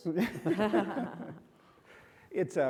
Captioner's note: panelists chuckle